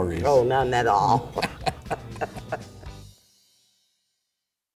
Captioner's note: laughs